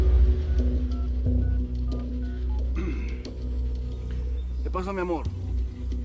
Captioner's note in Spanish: Sonido al marcar